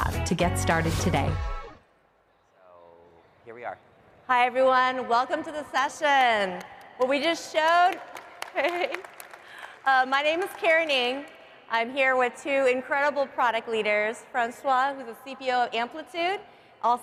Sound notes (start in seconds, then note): 10.0 applause